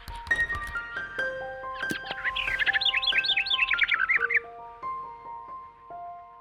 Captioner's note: gentle music; birds chirping